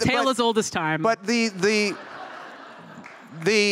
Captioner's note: laughter